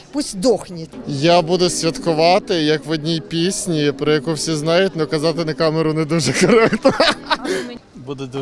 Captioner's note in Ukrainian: сміється